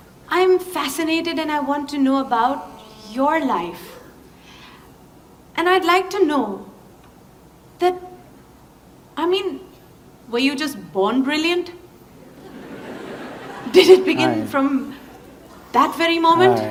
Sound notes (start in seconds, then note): 12.2 laughter